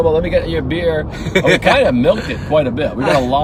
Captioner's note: laughing